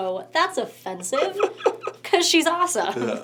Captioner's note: laughs